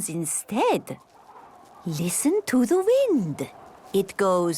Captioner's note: wind blowing